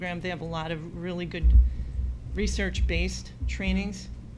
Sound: none

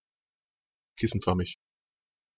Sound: fast Pronunciation

